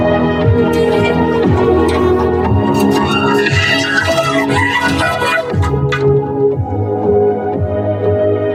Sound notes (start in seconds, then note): 0.6 cackles wildly